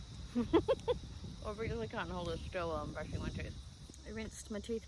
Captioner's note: giggles